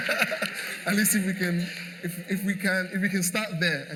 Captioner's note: laughter